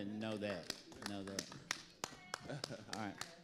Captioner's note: audience applauding